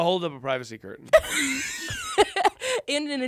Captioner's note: laughs